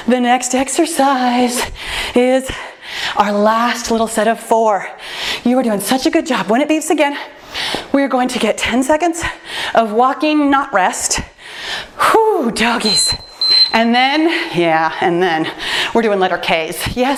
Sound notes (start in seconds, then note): 12.8 timer beeps